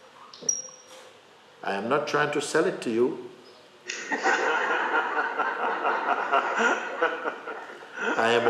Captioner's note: laughter